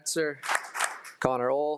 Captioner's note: attendees applauding